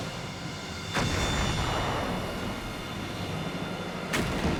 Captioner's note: explosion booms